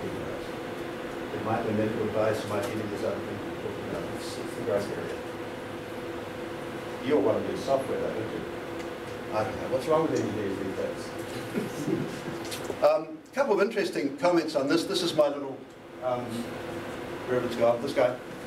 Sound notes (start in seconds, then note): 13.0 laughter